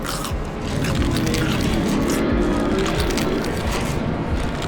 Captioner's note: creature sounds